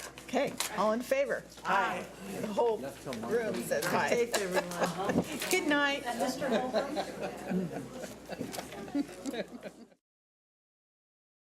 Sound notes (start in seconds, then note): 4.0 laughs